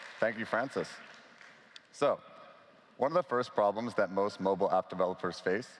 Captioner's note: applause